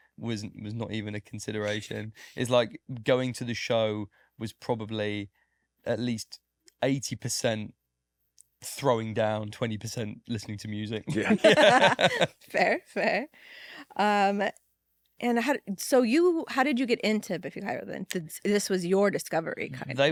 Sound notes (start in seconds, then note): 11.1 group laughing